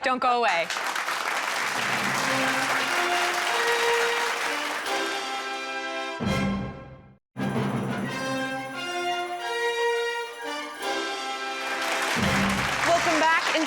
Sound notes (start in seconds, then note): 2.6 crowd clapping; 7.4 orchestrated music